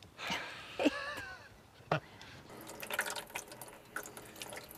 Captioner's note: woman laughs